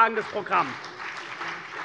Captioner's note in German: Beifall CDU und BÜNDNIS 90/DIE GRÜNEN